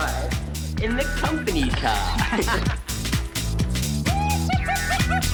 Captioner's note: John laughs